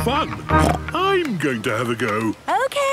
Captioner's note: snorts